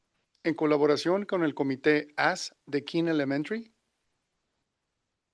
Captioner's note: non-english speech